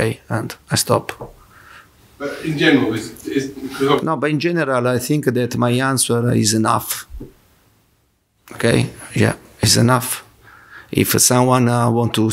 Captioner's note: laughs